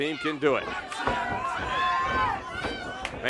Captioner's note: crowd chatter